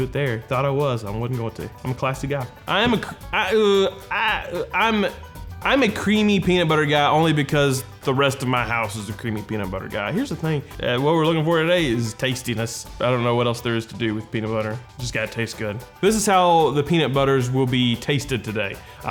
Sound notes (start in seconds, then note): 3.7 stuttering